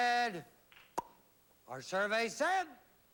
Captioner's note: pop